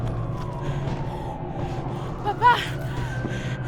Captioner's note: sirens wailing